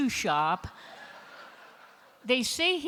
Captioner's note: laughter